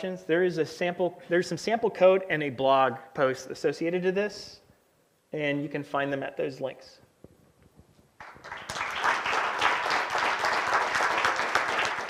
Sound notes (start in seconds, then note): 8.2 applause